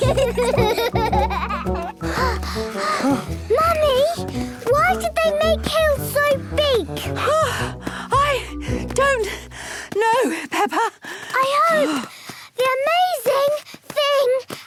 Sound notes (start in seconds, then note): 0.0 children giggling; 1.7 panting; 9.5 panting